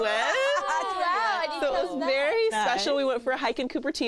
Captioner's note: laughter